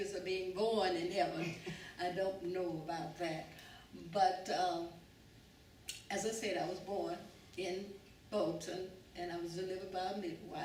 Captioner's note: laughter